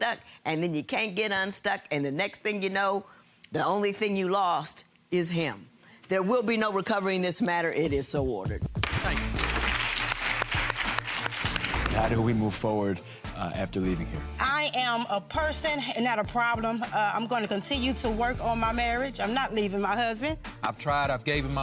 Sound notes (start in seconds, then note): 8.8 audience applauding; 9.2 gavel thudding